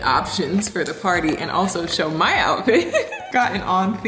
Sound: chuckles

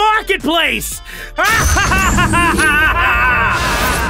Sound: echoing laughter; time portal woosh

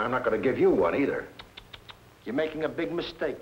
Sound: Malamos clicking tongue

